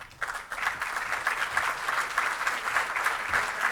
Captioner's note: applause